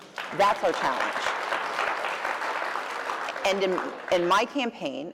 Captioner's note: applause